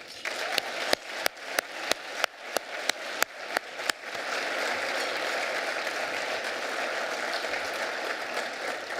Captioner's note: applause